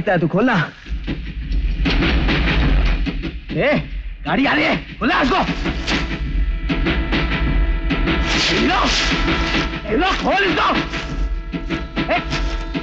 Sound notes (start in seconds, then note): 1.0 train rumbling; 5.8 train rumbling